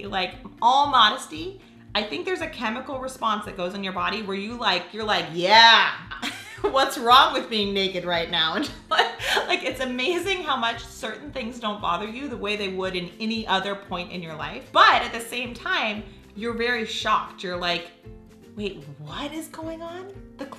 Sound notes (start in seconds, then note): 8.9 laughs